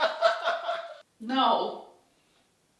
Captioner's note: husband laughing